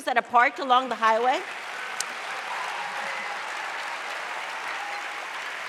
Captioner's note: audience applauding